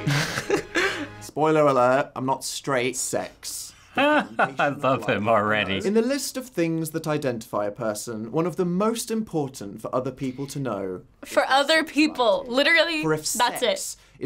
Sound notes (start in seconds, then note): 0.0 laughs; 3.9 laughs